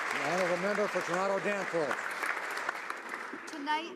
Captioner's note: applause